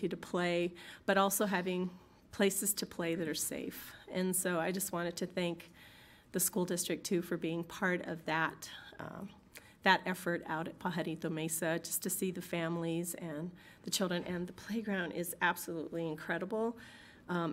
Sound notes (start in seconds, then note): none